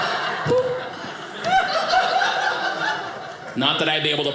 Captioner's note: audience laughing